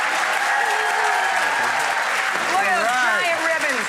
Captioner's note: applause